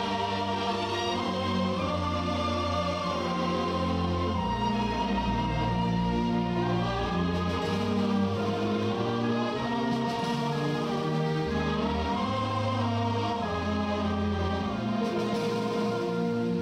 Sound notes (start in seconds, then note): none